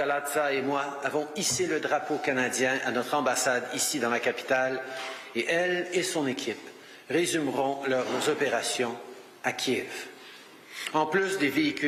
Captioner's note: speaking French